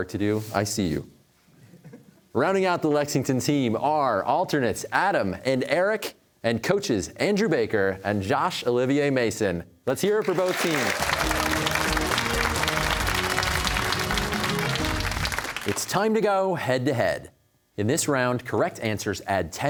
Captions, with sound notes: I see you. Rounding out the Lexington team are alternates Adam and Eric and coaches Andrew Baker and Josh Olivier-Mason. Let's hear it for both teams. (cheers and applause) It's time to go head to head. In this round, correct answers add ten points